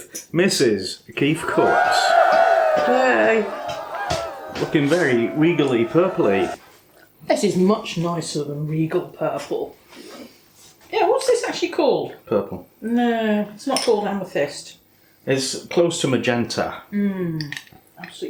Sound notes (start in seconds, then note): 1.4 cheering